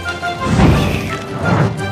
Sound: blows

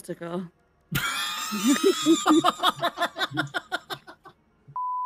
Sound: everyone laughs

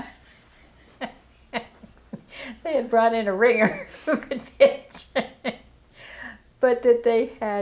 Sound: chuckle

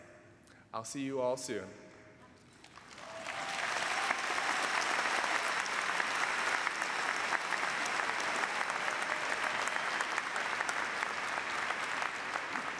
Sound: applause

